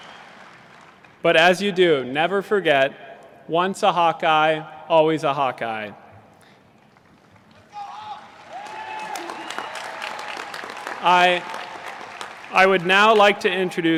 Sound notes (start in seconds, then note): 6.8 applause